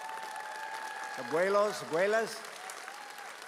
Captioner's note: audience cheers